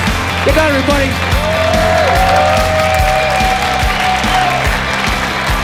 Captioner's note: cheering